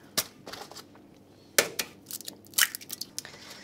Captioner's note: eggshell cracking